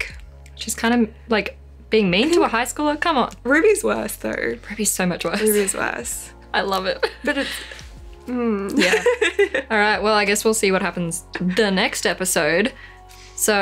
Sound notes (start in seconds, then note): 8.6 laughs